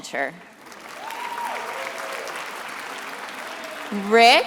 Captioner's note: attendees applauding